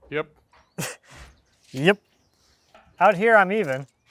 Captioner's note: scoffs